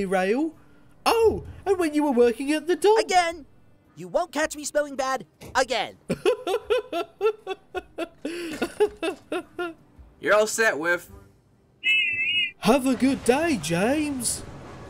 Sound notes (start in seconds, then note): 6.1 whiff giggles; 11.8 whiff whistles